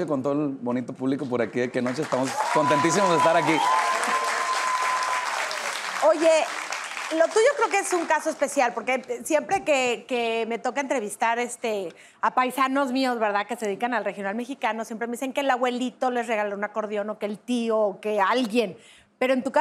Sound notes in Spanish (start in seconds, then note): 3.5 Aplausos